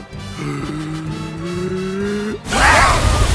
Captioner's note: long inhale